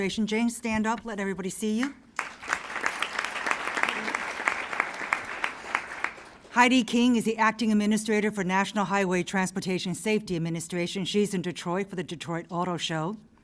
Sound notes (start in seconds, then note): 2.1 applause